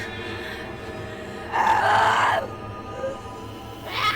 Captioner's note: screaming